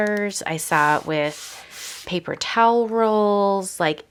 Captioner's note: hand rubbing tape